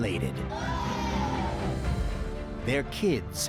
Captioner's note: cheering